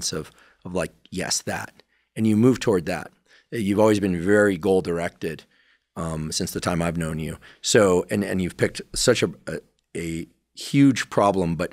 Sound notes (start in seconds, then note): none